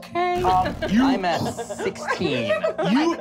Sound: grunting

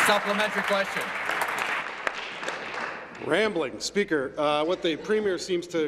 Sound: applause

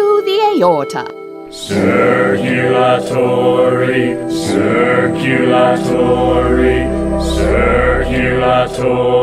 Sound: chanting

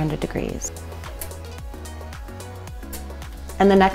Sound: oven knobs click

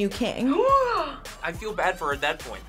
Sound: gasps

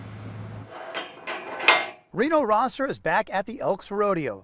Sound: gate clicking shut

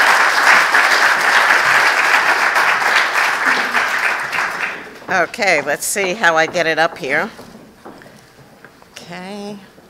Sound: applause

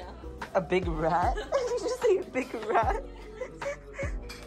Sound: laughs

